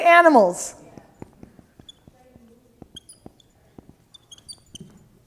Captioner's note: marker squeaking